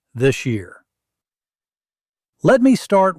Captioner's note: pause